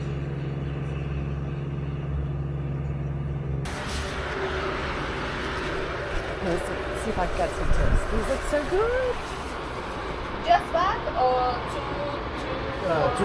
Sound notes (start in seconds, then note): 3.3 Traffic